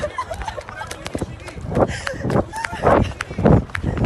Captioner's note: officers yelling